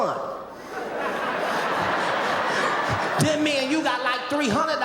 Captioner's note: audience laughing